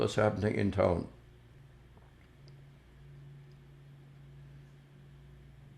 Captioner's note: pauses 10 seconds